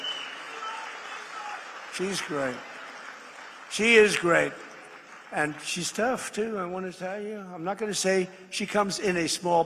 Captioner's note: applause